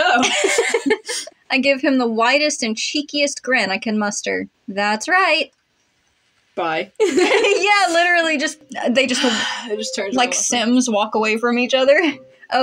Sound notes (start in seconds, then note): 0.1 laugh; 0.2 snicker; 7.0 laugh; 9.2 sigh